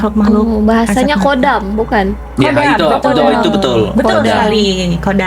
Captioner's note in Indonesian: tertawa